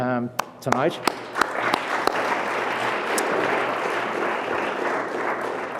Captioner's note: audience applause